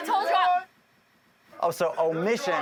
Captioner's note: muted